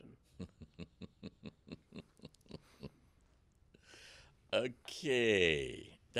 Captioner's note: laughing